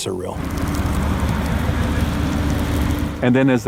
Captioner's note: fire flames crackling